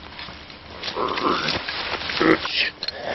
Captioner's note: creature growling